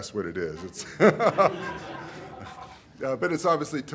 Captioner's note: laughter